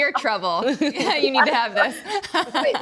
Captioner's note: laughs